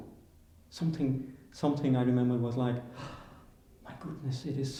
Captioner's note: gasps